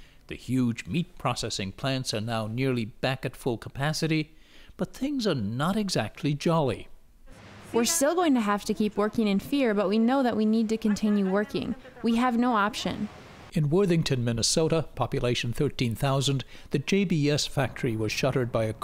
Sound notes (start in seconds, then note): 7.3 through translator